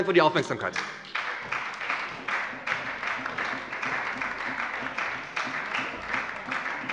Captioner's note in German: Beifall bei der SPD und der LINKEN